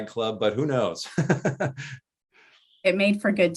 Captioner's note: laughs